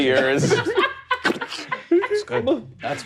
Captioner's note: imitates meat squelching